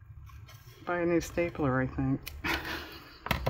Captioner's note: laughs